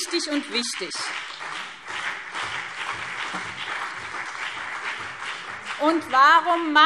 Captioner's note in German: Beifall BÜNDNIS 90/DIE GRÜNEN und CDU